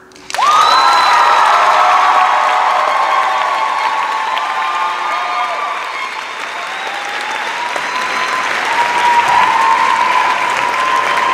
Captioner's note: cheers and applause